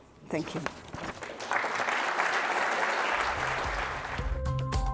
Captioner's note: audience applauding; upbeat ethereal music